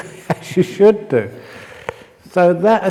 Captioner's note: chuckle